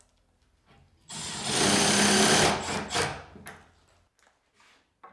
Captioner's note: drill whirring